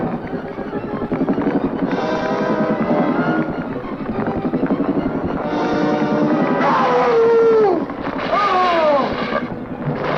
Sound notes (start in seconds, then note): 6.6 screaming